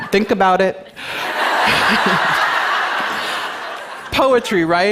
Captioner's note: laughter